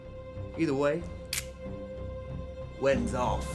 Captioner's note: cocks gun